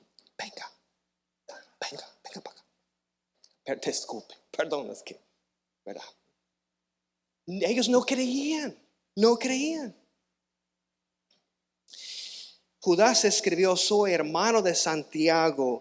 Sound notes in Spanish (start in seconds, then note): 11.9 resoplido